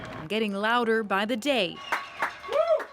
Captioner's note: applause